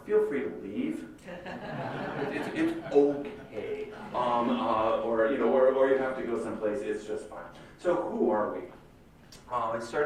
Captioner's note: laughter